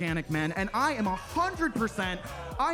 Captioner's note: attendees laughing